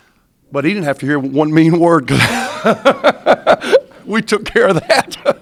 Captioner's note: laughs